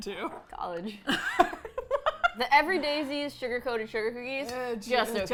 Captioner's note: nostalgically; laughs